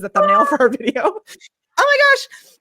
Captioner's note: makes wah noise